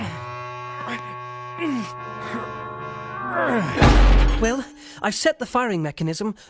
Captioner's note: grunting